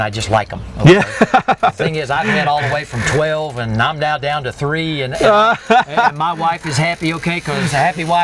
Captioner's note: laughter